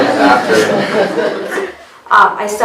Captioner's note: participants laughing